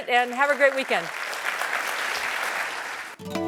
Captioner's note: applause